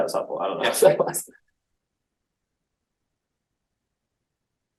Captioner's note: laughing